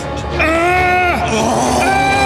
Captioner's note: suspenseful music; Siegmund groaning